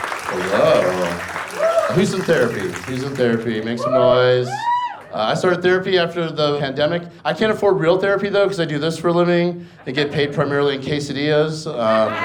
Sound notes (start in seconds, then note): 0.0 audience cheers and applauds; 4.3 audience members whoop